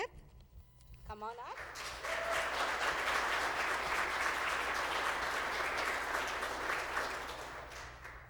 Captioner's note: applause